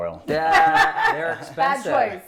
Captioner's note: laughing